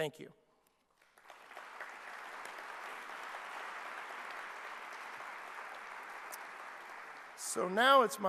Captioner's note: clapping